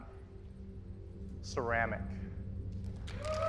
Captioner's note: applause